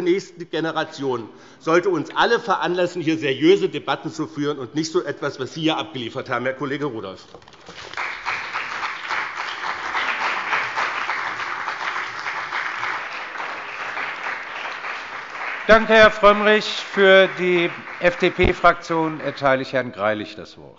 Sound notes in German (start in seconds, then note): 7.4 Beifall bei dem BÜNDNIS 90/DIE GRÜNEN und der CDU